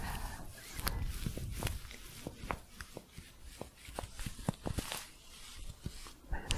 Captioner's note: scratchy crinkling